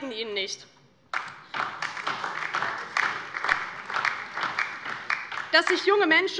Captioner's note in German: Beifall DIE LINKE und vereinzelt SPD